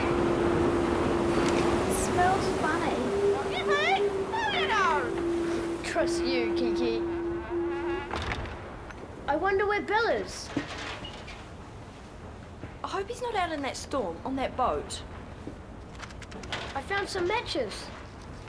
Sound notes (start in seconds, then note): 3.8 Kiki chattering